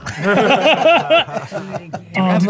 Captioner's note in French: rires